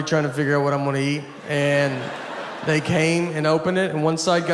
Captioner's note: audience laughs